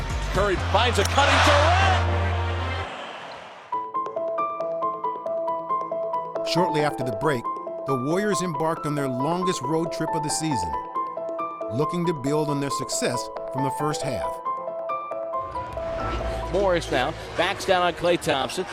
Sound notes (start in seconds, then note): 0.1 crowd cheering; 3.6 atmospheric instrumental music